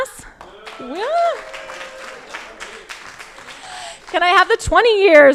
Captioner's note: crowd applauding